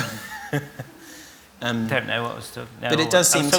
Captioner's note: laughter